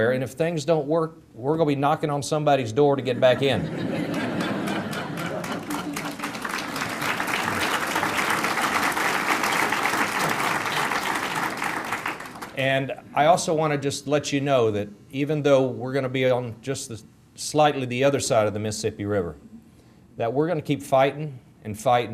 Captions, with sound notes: AND IF THINGS DON'T WORK, WE'RE GOING TO BE KNOCKING ON SOMEBODY'S DOOR TO GET BACK IN. [ AUDIENCE LAUGHTER ] [ APPLAUSE ] AND I ALSO WANT TO JUST LET YOU KNOW THAT EVEN THOUGH WE'RE GOING TO BE ON JUST SLIGHTLY THE OTHER SIDE OF THE MISSISSIPPI RIVER THAT WE'RE GOING TO KEEP FIGHTING, AND FIGHTING,